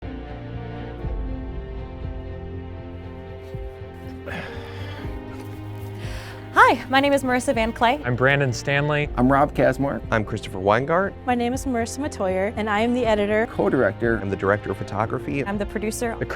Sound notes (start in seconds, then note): 0.3 uplifting music; 3.9 sighs